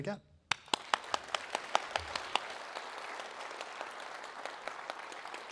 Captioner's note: clapping